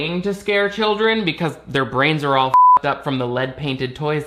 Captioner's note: beep